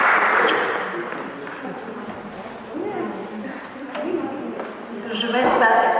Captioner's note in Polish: Aplauz